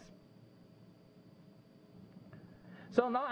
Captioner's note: pause